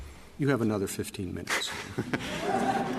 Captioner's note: laughter